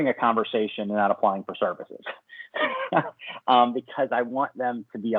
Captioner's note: laughs